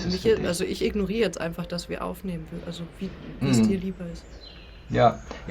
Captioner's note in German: räuspern